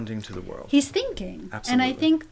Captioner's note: voiceover